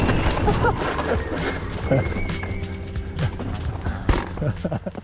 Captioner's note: lively music; wheels whooshing; laughing